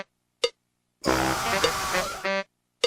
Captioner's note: screams of failure